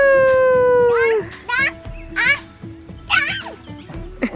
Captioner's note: baby talk - counting